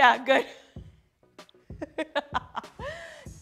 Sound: laughs

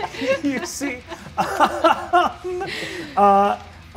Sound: all laugh

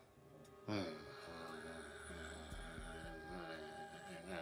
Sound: groaning

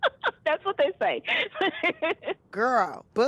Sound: laughing

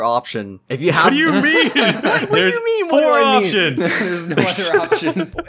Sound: laughter

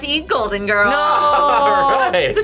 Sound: laughs

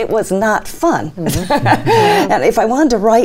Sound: laughs

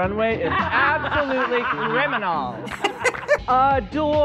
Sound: chuckling

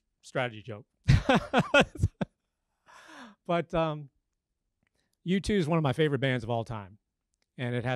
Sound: laugh

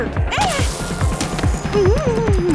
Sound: grunts

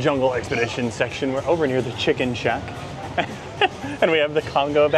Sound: chuckles

